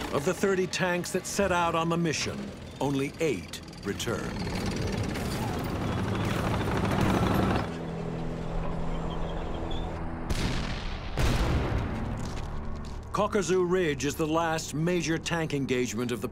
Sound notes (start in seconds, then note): 4.7 tanks rumbling; 7.8 ominous instrumental music; 7.8 wind howling; 10.3 cannon shots exploding